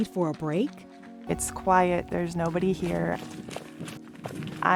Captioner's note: feet tapping forest floor